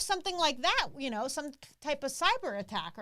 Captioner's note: none